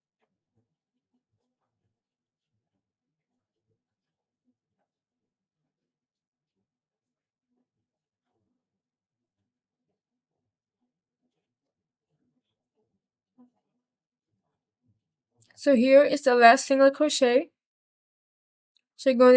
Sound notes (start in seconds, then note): 4.6 silence